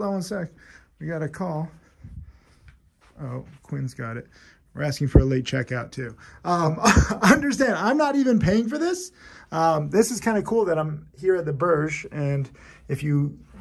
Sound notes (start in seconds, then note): 6.7 laughs